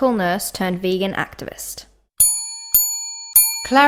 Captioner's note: triple bell ring